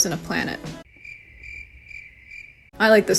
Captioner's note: crickets